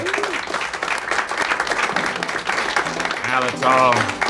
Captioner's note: all clapping